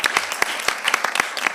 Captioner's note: applause